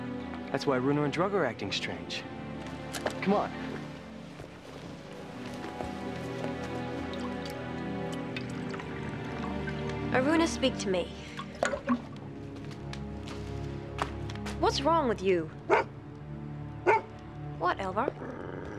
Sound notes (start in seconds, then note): 4.9 gentle dramatic music; 16.8 Elvar barks